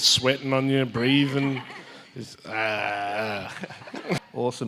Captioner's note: audience chuckles